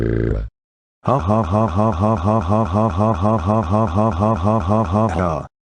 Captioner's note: evil laugh